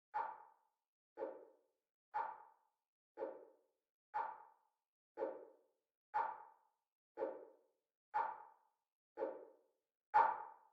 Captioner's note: clock ticking